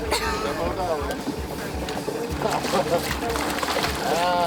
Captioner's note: fish flapping